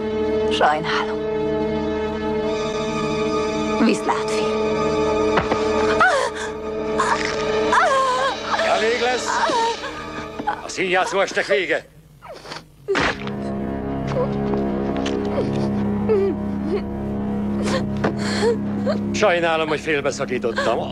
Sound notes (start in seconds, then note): 5.3 bones snapping; 6.0 gasps and scream; 13.9 muffled sobbing